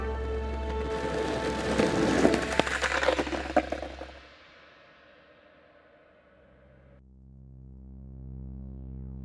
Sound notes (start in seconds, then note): 0.4 skateboard clattering; 6.9 suspenseful music